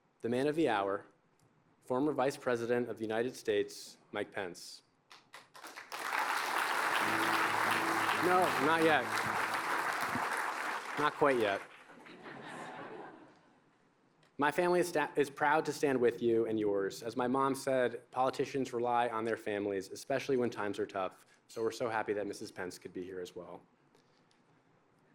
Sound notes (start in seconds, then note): 5.1 applause; 12.0 chuckling